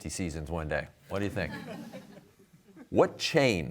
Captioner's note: crowd laughs